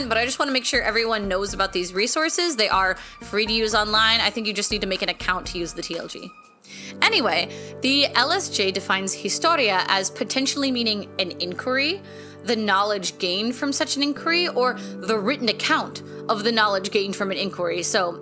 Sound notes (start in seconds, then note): none